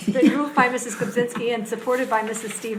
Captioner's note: laughing